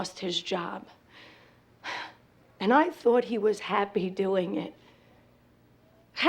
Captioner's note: sighs